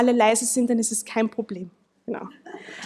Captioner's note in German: Gelächter